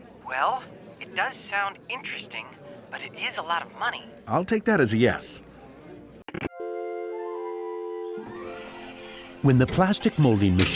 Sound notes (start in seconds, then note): 6.6 phone buzzes out